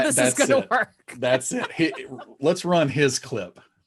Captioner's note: laughing